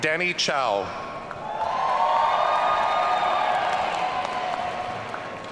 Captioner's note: audience cheering